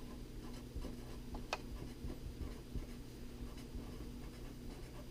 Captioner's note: pen writing on paper